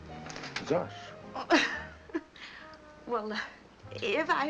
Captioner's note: laughs